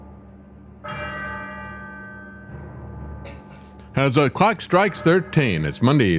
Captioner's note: bell Ringing